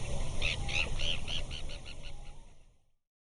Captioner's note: bird tweeting